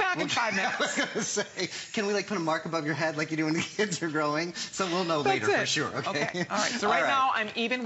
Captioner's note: laughter